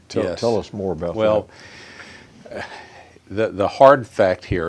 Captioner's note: sighs